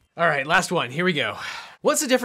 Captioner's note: none